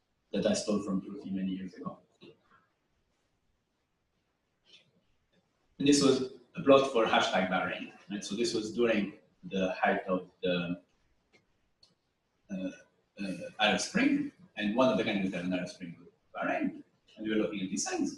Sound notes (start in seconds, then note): 2.7 pause; 11.0 pause